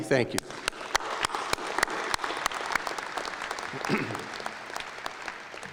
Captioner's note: applause